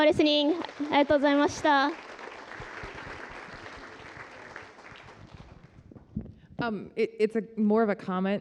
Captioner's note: japanese